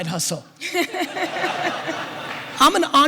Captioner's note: audience laughter